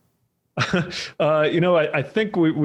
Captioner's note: laughs